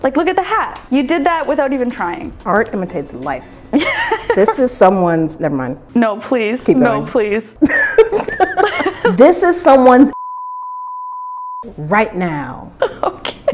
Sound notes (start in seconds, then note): 3.8 laughing; 7.6 laughing; 10.1 beeping sound; 12.7 laughing